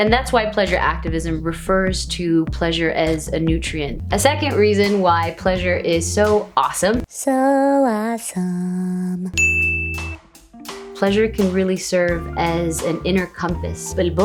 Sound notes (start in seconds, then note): 9.4 ding